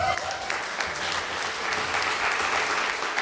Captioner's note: applause